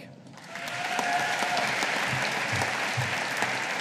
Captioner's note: audience applauding